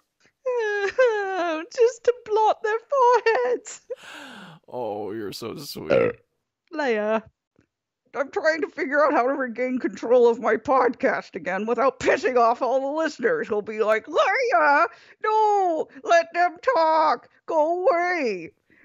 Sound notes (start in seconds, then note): 5.8 loud belch